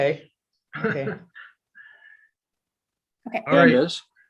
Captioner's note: giggles